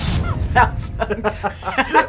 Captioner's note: laughing